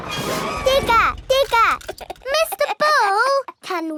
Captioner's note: chuckles